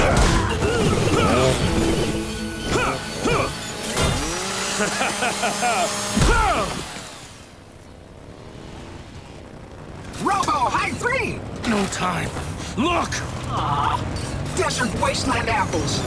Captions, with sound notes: [grunting] [laughing] Robo-high three! No time. Look! Aww, desert wasteland apples